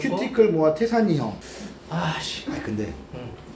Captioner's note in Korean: 스읍